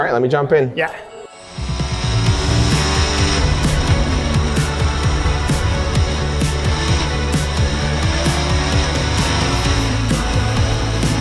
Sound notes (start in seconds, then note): 0.8 exciting music; 1.4 car engine revving